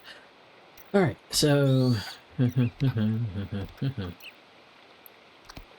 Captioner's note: humming